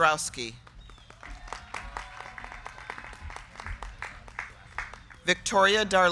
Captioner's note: crowd clapping; crowd cheering